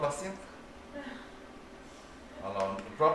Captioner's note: laughs